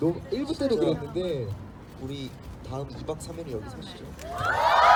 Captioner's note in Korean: 함성